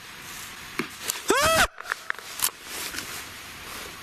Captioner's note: screams